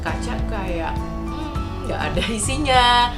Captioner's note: mmmmm